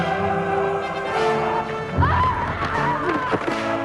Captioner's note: both yelling